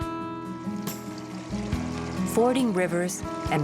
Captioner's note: water running